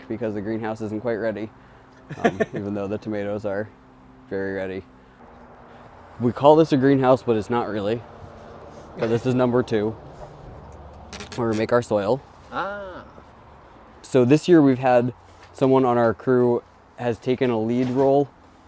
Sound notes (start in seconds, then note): 2.0 laughs